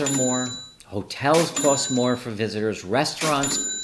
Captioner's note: register clangs; register clangs